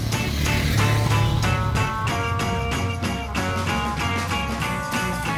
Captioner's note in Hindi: घंटी की आवाज़